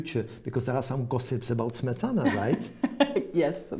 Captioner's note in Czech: smích